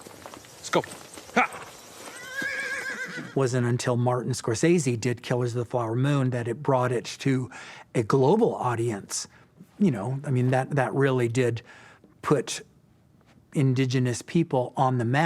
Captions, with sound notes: Let's go, yah. (horse neighing) - Wasn't until Martin Scorsese did "Killers of the Flower Moon" that it brought it to a global audience. You know, I mean that, that really did put indigenous people on the map.